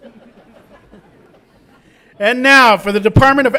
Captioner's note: audience laughs